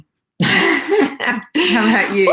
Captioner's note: laughs